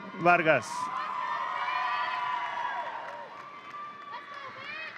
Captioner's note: audience cheering